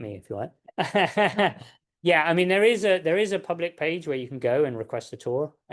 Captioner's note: laughs